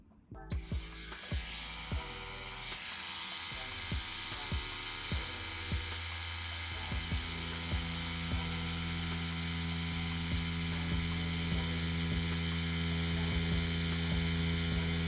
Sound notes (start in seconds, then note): 0.8 tattoo machine motor buzzing; 6.7 light music